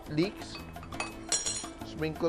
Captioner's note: clang